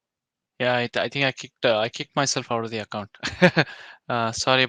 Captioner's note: chuckles